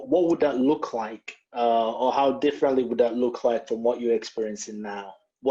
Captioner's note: none